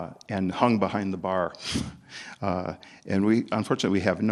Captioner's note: chuckles